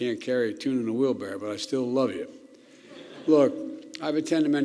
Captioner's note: laughter